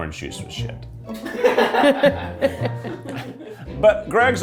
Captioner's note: crew laughing